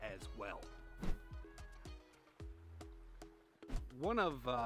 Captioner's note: screen whooshing; screen whooshing